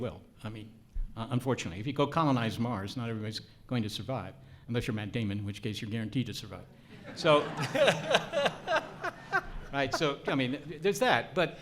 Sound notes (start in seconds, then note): 6.9 audience laughs